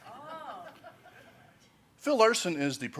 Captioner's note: laughs